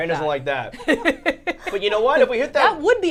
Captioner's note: laughing